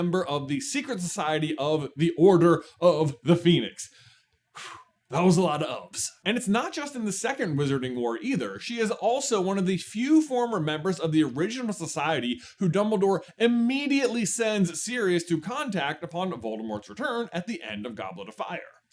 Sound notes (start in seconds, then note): 3.9 exhale